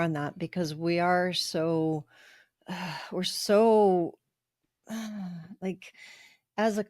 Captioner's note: sigh